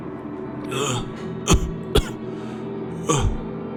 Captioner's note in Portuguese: ahh.. cof cof